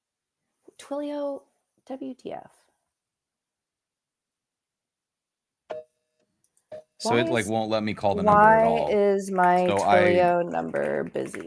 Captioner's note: busy signal